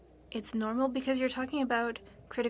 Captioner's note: speaking FRENCH